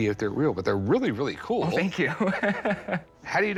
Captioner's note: laughs